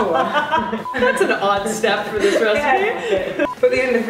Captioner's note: laughter